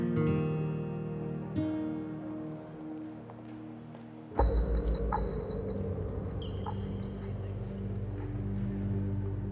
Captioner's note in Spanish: Sollozos